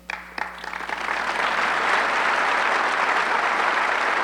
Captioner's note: audience clapping